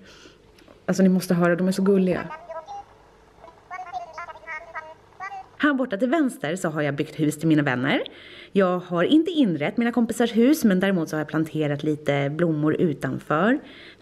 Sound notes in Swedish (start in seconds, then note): 3.4 tjattrar